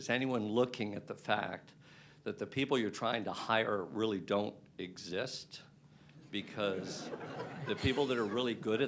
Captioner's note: laughter